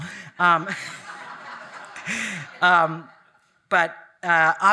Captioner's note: audience laughing